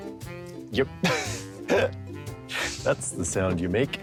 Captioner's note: chuckles